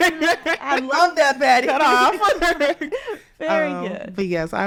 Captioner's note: laughs